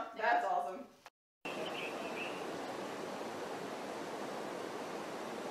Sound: water gushing

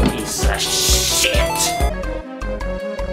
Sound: barrel Jump Sound

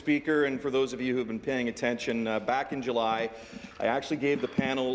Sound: applause

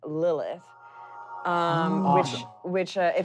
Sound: magical sounds

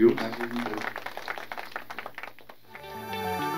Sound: applause

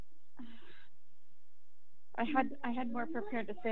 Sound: sighs

